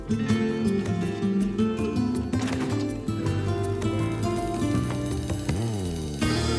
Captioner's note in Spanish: ruido al cerrar la puerta